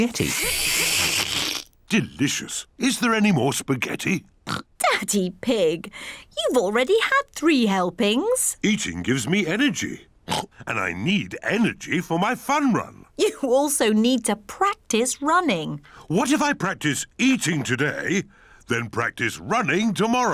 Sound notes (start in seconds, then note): 0.0 slurps; 4.4 oinks; 10.2 oinks